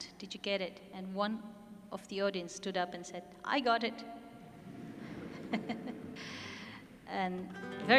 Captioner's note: audience laughs